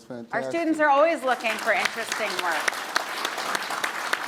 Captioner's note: audience applauds